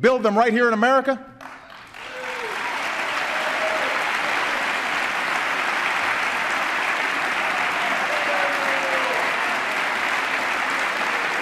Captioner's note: applause